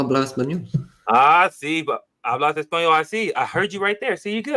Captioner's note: speaking spanish